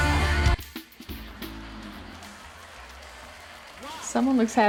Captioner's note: television chattering